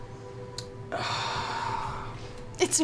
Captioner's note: sighs